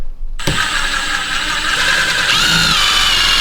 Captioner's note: drill Whirring